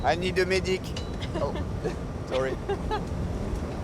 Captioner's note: laughs